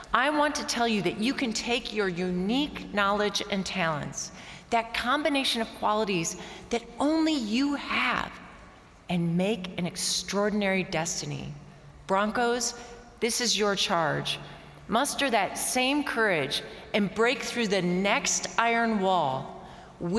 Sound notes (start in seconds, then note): none